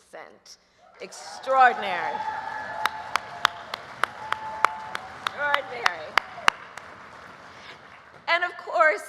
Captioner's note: applause